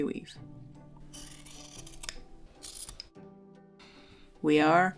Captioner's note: deliciously crunchy snips